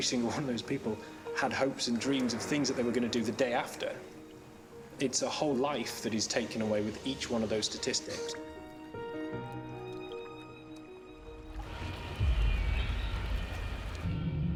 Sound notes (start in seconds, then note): 10.9 distant alarm blaring